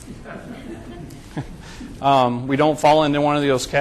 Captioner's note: group chuckles